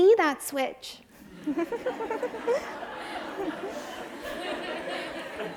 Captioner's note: audience laughs